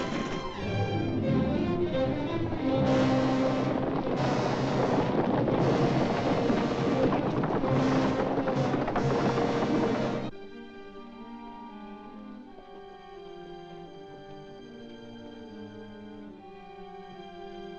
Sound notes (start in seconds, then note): 0.0 carriage rattling; 0.0 suspenseful music; 3.1 hooves pounding; 3.1 suspenseful music; 10.1 soft ominous music